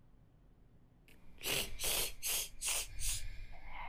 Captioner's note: Woman Slurping